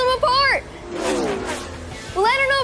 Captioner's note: race cars buzzing